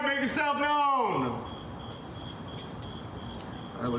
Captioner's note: crickets chirping